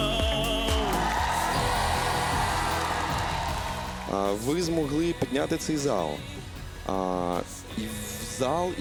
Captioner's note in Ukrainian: оплески